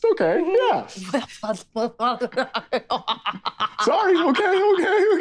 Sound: Isabella strangely laughing

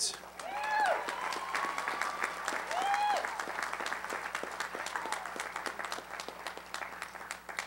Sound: applause

